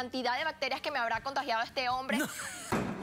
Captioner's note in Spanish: risas